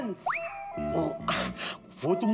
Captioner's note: sighs